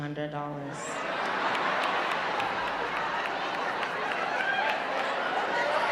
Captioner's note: audience chattering loudly